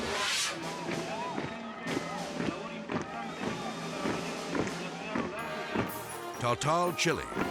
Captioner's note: dramatic air whoosh; military music; feet marching